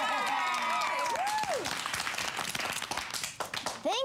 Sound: cheering and applause

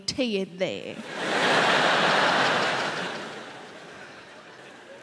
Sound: crowd laughing

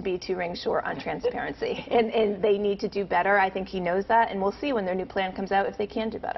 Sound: laughter

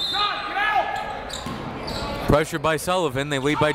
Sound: whistle

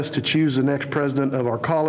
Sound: none

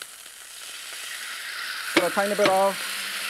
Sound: sauce sizzles

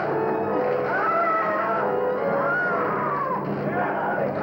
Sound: shouting; screaming

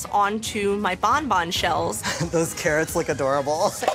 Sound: chuckles

